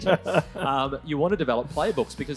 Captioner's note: laughs